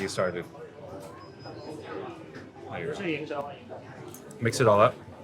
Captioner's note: people chattering